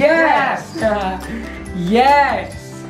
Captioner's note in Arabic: يضحك